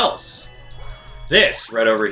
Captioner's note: gaming sounds